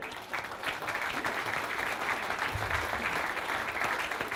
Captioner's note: applause